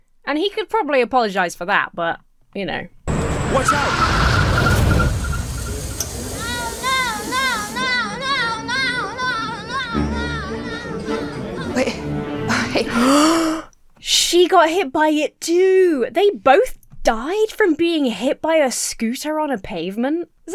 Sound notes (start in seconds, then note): 3.0 tires screech; 3.1 steamer hissing; 12.9 Emma gasps